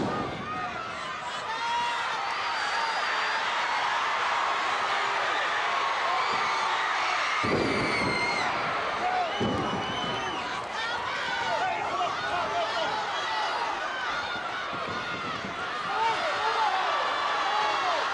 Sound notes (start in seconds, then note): 0.1 floor banging; 3.9 audience cheering; 7.0 floor banging; 14.7 audience chattering